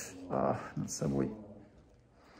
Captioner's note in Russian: стонет